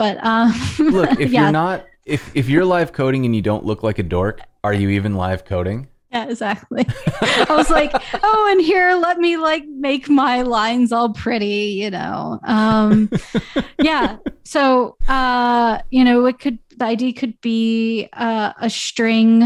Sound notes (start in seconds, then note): 6.7 laughter; 12.5 laughter